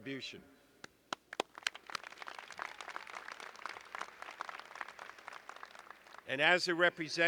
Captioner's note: applause